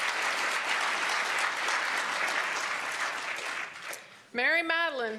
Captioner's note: applause